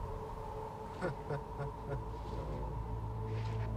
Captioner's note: agent chuckling